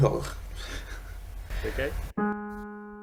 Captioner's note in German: lacht